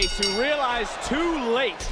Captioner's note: bell rings